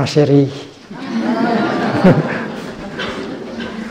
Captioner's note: laughing